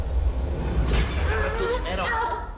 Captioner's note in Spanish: Gritos